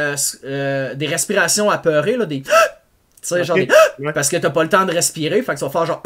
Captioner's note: breathes in loudly